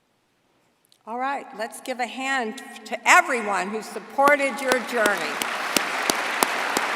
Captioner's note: applause